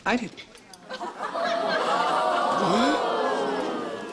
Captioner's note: audience booing